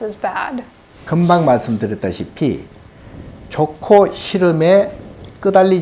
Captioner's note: speaking Korean